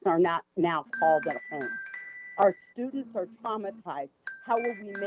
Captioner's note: chime